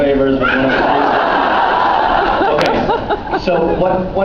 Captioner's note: laughs